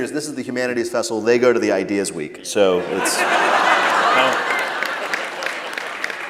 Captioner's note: laughter